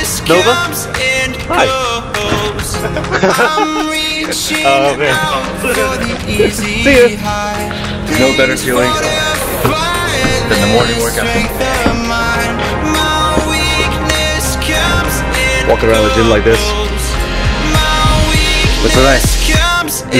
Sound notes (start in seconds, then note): 2.2 car door slams